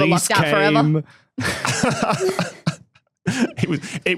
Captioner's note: group chuckling